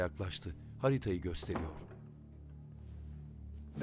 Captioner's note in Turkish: Kapı kapanma sesi